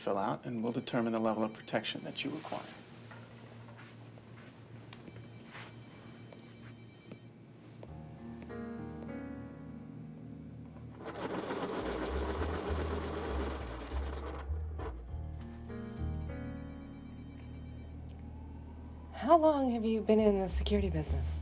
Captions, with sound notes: and we'll determine the level of protection that you require. (phone rings) (dramatic music) (pencil sharpens) - How long have you been in the security business?